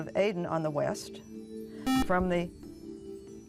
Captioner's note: buzzer